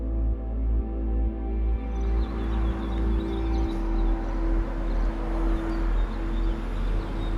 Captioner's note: somber music continues; birds chirping